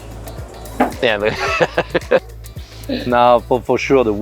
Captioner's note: chuckles